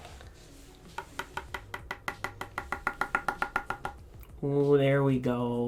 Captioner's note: brush tapping